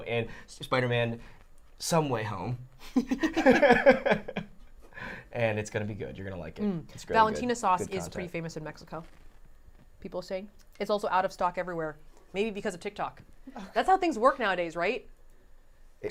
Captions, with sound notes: in Spiderman some way home (both laughing) and it's gonna be good. You're gonna like it. - Mm, Balentina sauce is pretty famous in Mexico. People saying, it's also out of stock everywhere, maybe because of TikTok. That's how things work nowadays, right?